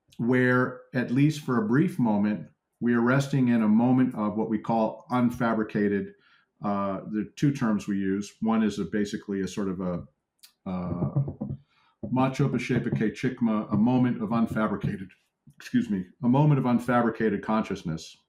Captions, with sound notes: where at least for a brief moment, we are resting in a moment of what we call, unfabricated. There are two terms we use. One is a basically a sort of a, [Tibetan] a moment of, unfabricated excuse me, a moment of, unfabricated consciousness